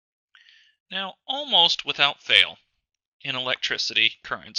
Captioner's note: voiceover